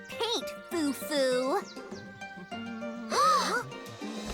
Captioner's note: humming